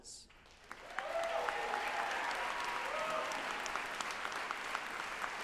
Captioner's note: group applauding and cheering